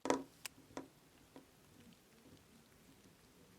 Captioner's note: fingers drum